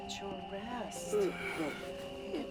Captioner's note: Felix groaning